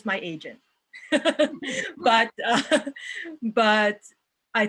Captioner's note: laughs